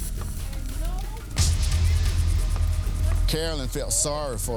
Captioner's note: indistinct chattering; tense music